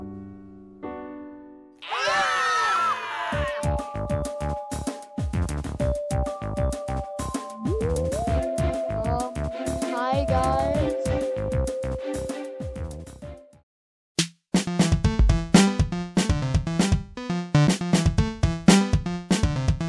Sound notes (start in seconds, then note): 1.8 scream; 7.7 raspberry